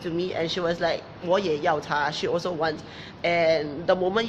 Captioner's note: speaking in foreign language